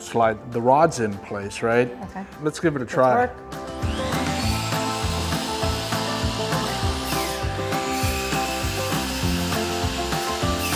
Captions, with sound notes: so we can slide the rods in place right? - Okay. - Let's give it a try. - Let's work. (upbeat music) (drill whirring)